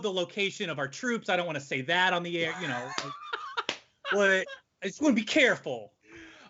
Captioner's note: chuckles